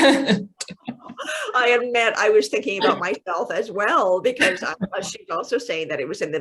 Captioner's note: laughs